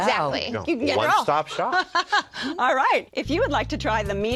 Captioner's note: laughs